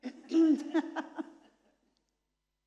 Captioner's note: laughter